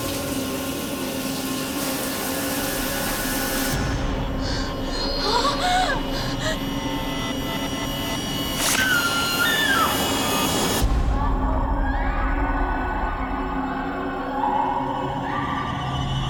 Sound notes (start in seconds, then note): 4.2 gasping; 8.6 screaming